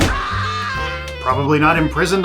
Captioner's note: Home Alone scream